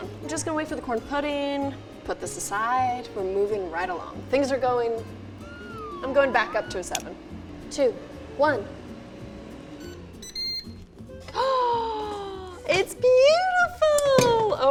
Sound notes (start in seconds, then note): 8.9 airfryer beeps; 11.4 gasps